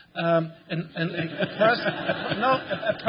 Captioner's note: laughter